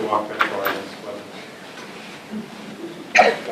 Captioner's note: laugh